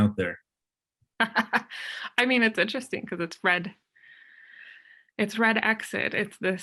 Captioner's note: laughs